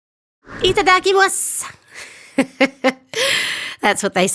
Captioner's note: speaking Japanese